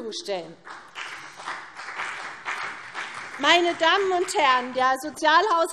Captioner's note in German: Vereinzelter Beifall CDU und BÜNDNIS 90/DIE GRÜNEN